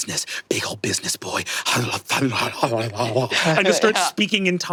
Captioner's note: muttering in tongues